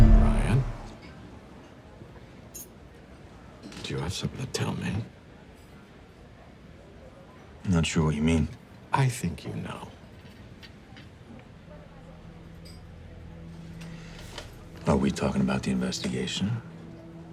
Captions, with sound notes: - Bryan, do you have something to tell me? (diners chatting indistinctly) - I'm not sure what you mean. - I think you know. (diners chatting indistinctly continues) - Are we talking about the investigation?